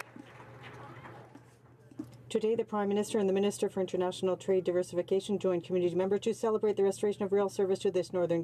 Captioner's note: some Applause